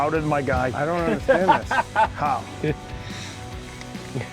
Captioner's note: anglers laughing